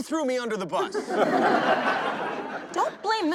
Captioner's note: crowd laughing